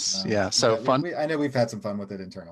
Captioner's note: laughing